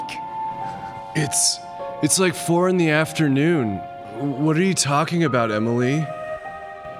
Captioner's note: whispering